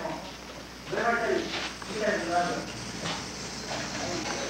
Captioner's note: indistinct chatter